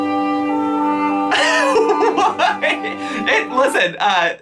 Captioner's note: whimsical music; laughing